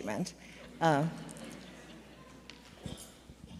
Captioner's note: audience laughs